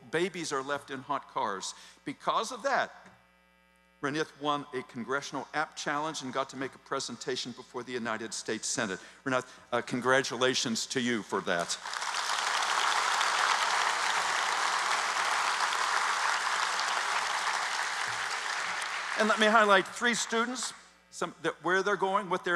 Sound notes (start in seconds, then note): 13.3 applause